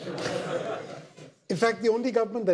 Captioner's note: audience laughter